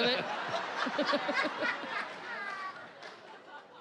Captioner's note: chuckles